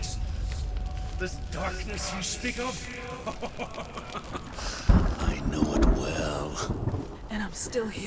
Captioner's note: laughs ruefully